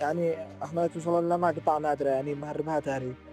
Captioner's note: speaking Alternate Language